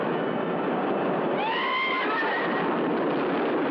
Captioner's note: screaming